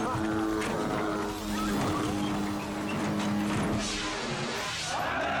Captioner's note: people shouting